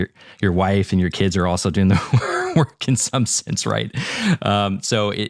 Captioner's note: laugh